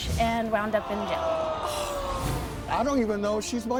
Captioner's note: audience groans